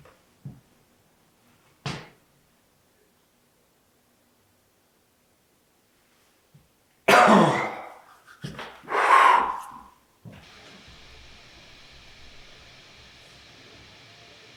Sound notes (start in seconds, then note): 7.0 Jacob coughs; 10.4 static hissing